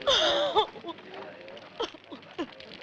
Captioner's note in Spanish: llora